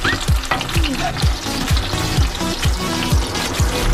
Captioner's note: pan sizzles